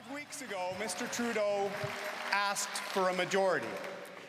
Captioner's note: cheering and Applause